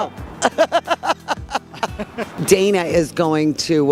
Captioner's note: both laugh